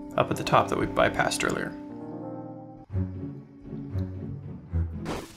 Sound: none

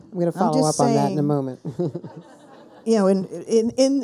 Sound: people laughing

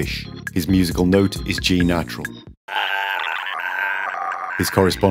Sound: strange gargling in G natural

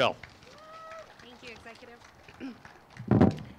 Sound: crowd cheers and applauds

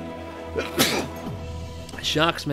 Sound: sneeze

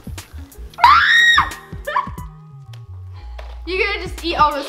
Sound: screams

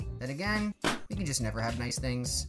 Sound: balloon pops

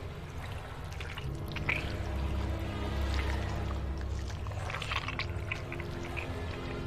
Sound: squishing

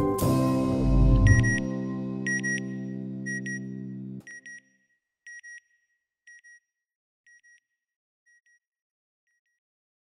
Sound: satellite beeping

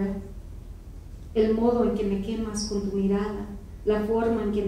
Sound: speaking in foreign language

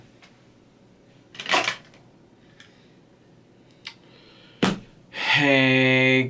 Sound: sunglasses clatter

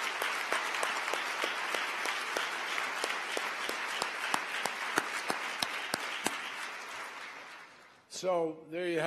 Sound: applause

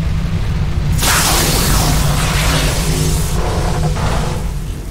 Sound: scifi energy and warping metal sounds

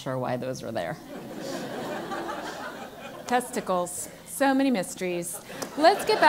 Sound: laugh

